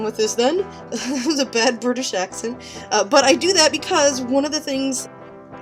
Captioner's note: laughs at self